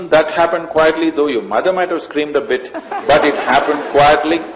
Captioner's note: laughter